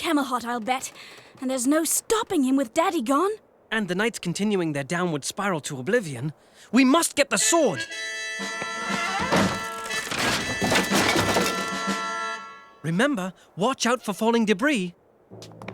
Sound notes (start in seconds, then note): 11.5 crashing